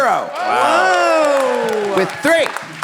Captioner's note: all clapping and cheering